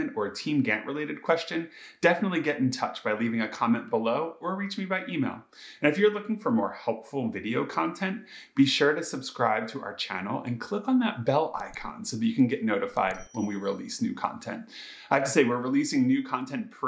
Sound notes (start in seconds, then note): 13.0 bell chime